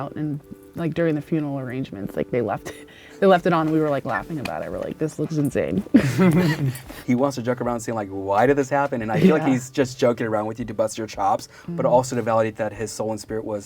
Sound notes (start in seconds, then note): 2.8 chuckling; 5.9 laughing